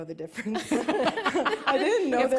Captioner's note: laughter